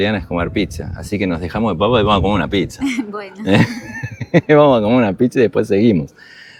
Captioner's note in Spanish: risas